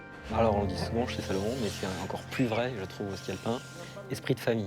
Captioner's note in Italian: musica rilassante; parla in francese